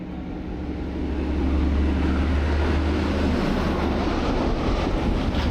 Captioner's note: train rumbling